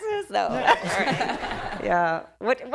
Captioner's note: laughter